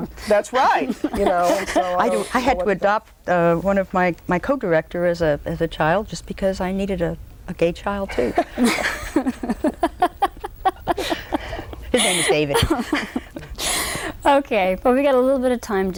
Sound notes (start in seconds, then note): 0.8 laughter; 8.2 loud laughter